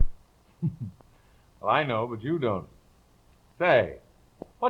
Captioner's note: laughs